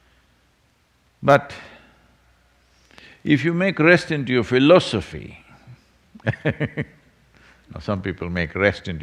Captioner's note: laughs